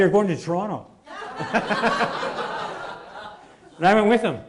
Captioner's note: laughing